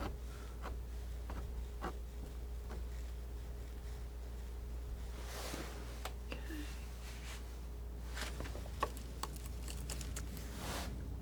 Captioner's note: scraping